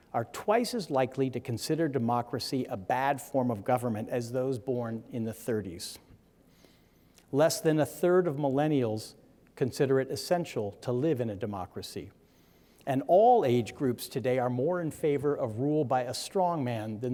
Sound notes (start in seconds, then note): none